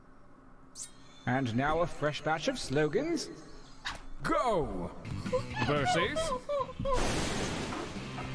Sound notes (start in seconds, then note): 5.1 giggles